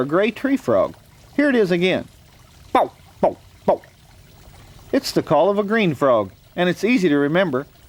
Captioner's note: frog call